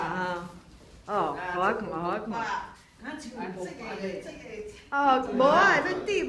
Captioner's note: speaking foreign language